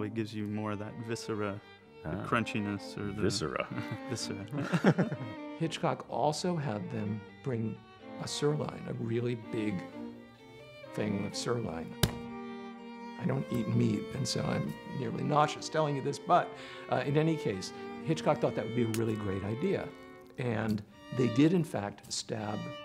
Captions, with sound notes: gives you more of that viscera... crunchiness Ahh, viscera! Viscera [laughter] Hitchcock also had them bring a sirloin a really big thing of sirloin [slap sound] I don't eat meat and so I'm nearly nauseous telling you this... but in any case Hitchcock thought that would be a really great idea And they did in fact stab